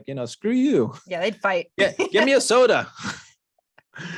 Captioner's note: chuckles